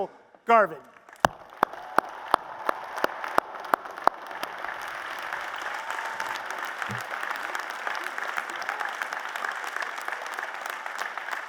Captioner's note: applause